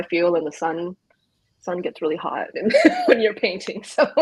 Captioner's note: laughs